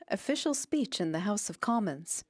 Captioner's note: speaking French